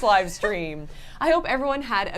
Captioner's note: laughs